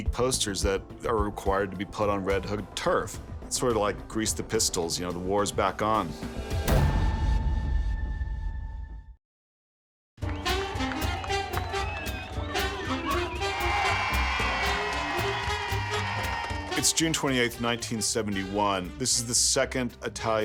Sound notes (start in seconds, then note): 11.7 cheerful music playing; 13.5 crowd cheering